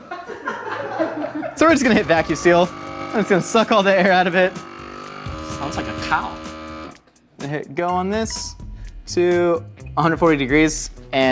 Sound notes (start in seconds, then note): 1.6 crew laughing; 4.7 machine whirring